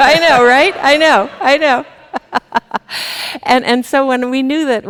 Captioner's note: chuckles